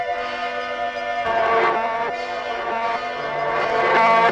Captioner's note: buzzing